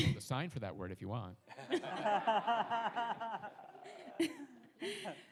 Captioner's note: audience laughs